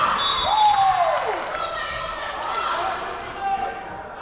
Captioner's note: whistle blowing